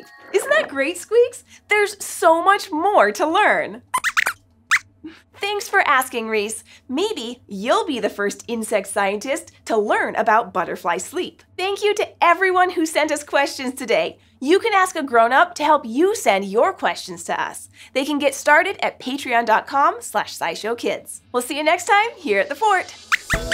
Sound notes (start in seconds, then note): 3.9 squeaks squeaks